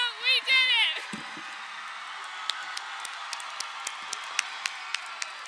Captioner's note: crowd cheering